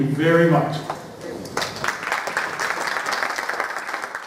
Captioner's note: applause